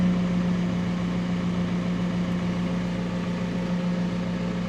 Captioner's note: engine humming